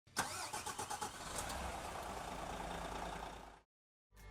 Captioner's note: car engine starts